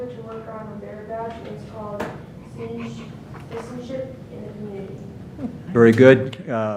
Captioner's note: speaking off mic